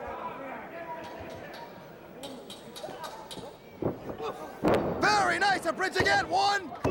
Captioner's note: crowd chatter